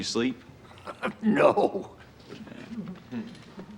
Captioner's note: chuckles